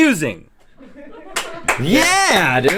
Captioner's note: laughing; clapping